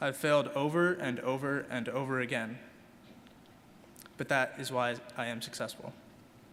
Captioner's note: none